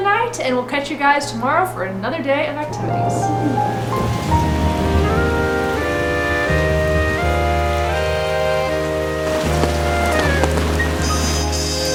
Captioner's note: thunder